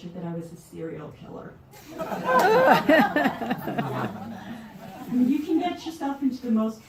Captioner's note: laughter